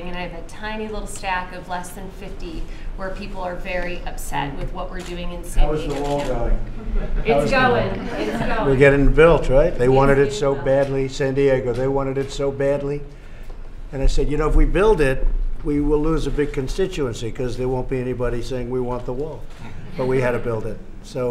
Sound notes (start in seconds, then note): 6.7 laughter